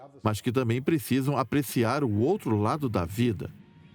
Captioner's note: screaming